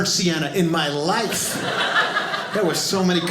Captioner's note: audience laughing